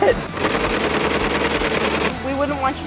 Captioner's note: laughing; sewing machine rattles